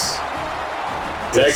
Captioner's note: crowd Noises